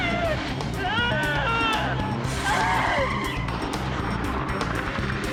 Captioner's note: loud crying